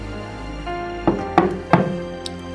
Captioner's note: knocking on the door